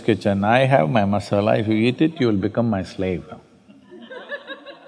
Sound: laughter

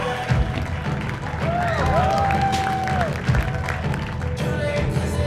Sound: bursts of cheers and applause

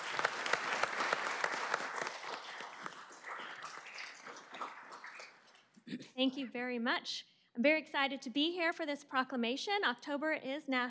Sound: applause

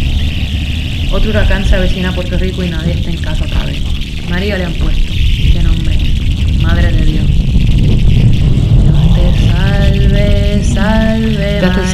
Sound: spanish

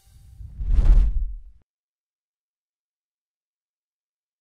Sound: air whooshing

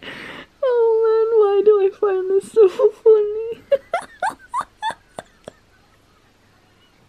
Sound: laughing

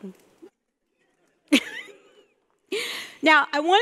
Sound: laughing

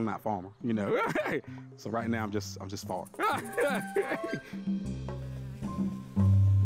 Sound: laughing

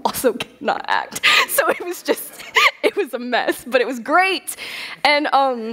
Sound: laughter

